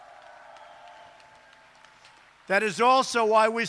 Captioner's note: applause